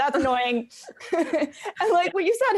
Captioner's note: laughs